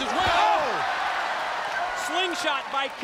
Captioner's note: audience cheers